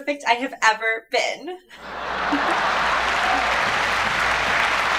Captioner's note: audience laughing; audience applauding